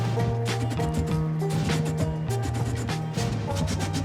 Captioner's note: fire blasting